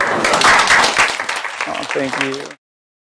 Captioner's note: applause